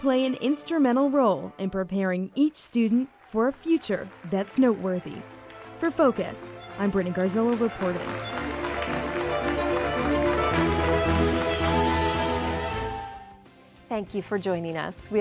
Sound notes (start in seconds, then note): 8.0 applause; 9.9 classical music